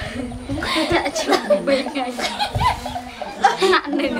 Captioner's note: talking and laughing together